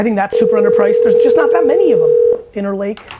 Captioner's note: phone rings